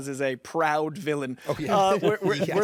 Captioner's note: chuckles